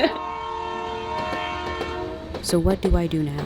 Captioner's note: horn blaring